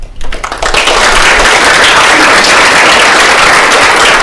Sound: attendees applauding

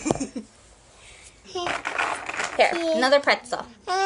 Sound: chuckles

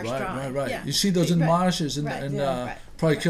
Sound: voiceover

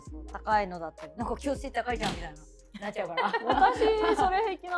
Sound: laughs

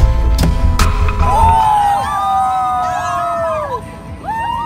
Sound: crowd cheering

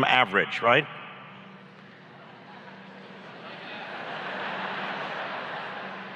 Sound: laughs

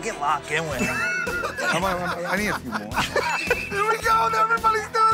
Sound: laughter

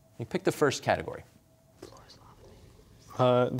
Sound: whispering

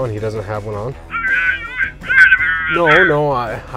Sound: boss yelling over phone

